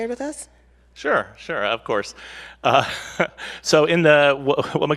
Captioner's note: laughs